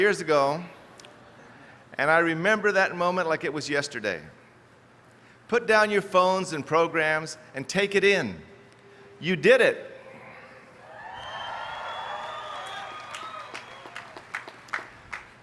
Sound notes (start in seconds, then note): 10.8 cheers